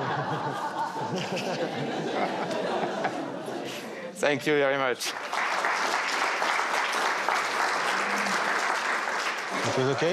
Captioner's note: laughs